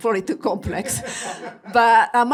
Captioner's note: all laughing